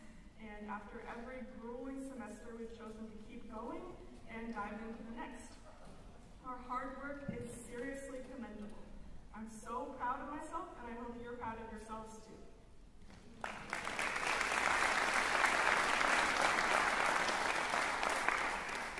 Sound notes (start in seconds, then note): 13.1 applause